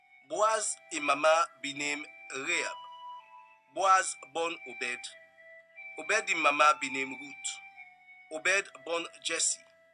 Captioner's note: reading in Krio